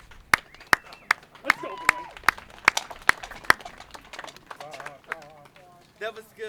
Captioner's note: clopping coconuts